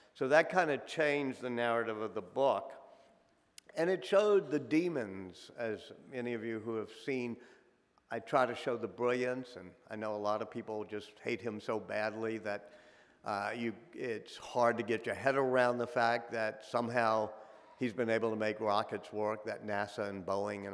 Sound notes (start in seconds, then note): none